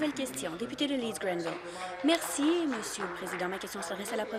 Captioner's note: applause